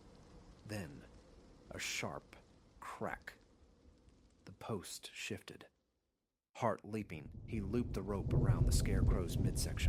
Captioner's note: crack